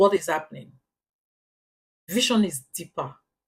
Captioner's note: paause